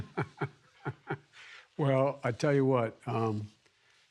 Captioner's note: laughs